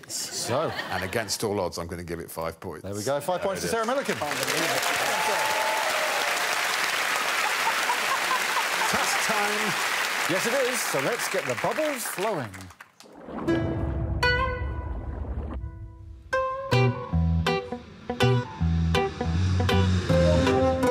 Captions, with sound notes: and against all odds I'm going to give it five points. There we go. Five points to Sarah Millican. [applause] -Task time. -Yes, it is. So, let's get the bubbles flowing.